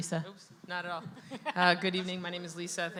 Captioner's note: laughs